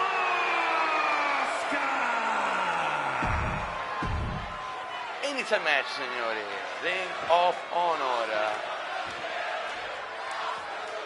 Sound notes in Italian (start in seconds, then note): 3.2 urlo